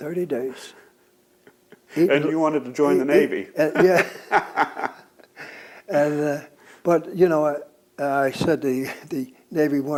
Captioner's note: laughs